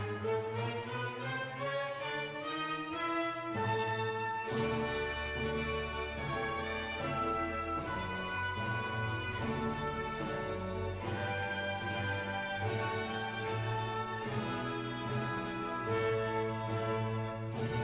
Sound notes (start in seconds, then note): none